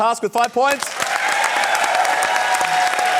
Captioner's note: cheering, applause